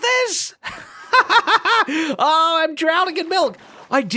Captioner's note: laughs